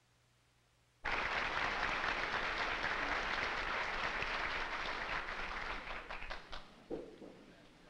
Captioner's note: applause